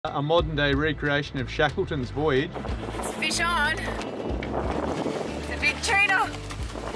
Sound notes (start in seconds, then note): 4.2 wind blowing